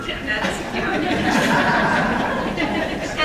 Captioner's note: laughter